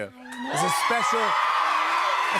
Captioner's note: audience cheers